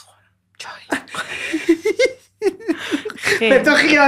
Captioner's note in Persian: خنده